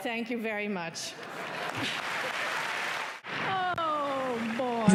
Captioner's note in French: applaudissements